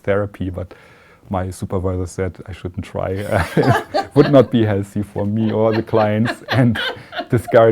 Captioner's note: laughter